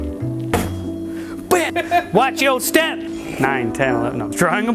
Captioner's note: bam